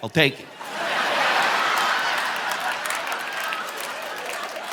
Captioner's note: audience laughing